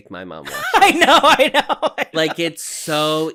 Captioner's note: laughing